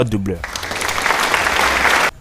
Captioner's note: cheer